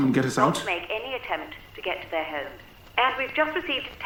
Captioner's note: radio Announcer